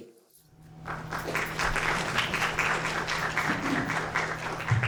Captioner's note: audience applauds